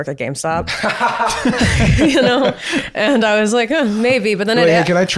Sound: both laughing

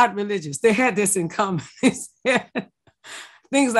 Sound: laughs

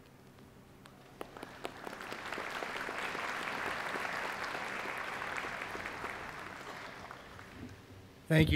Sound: applause

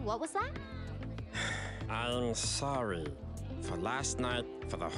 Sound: sighs

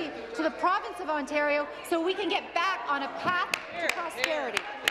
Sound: applause

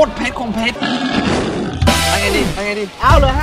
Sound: burp

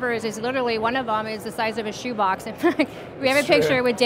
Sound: giggles

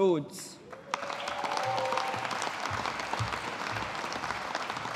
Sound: audience applauding

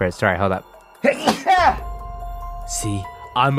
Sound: sneezes

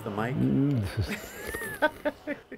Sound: laughter

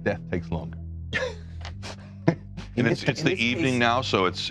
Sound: laughing

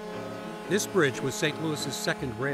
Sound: horn honks

